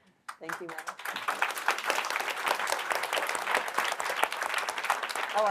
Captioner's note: applause